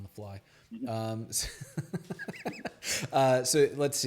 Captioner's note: laughs